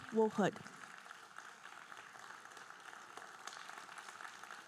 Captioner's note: audience applauding